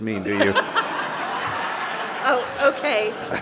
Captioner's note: laughing